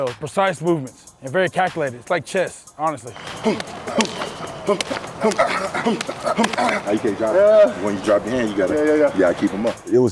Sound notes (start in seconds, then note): 3.1 grunting; 3.1 slapping